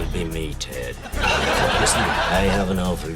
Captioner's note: laughter